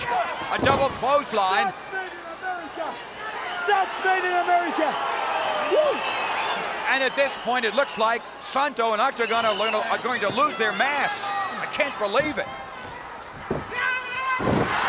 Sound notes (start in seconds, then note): 4.9 applause